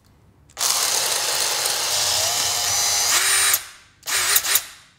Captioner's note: grinder whirls